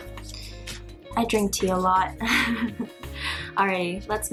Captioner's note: cute nervous laughter